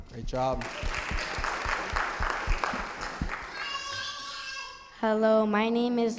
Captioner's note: audience applauding